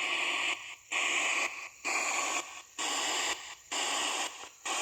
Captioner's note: ghost box buzzing